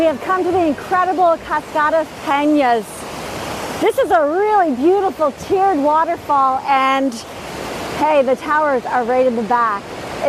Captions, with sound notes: - We have come to the incredible Cascadas Penas. (water rushes) This is a really beautiful tiered waterfall. And hey, the towers are right in the back.